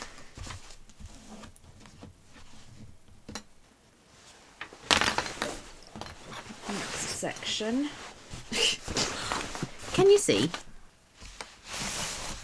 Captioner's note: sighs